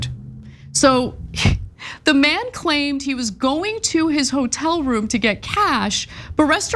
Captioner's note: laugh